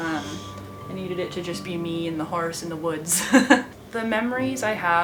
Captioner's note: laughs